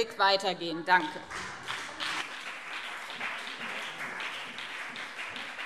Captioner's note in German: Beifall BÜNDNIS 90/DIE GRÜNEN und CDU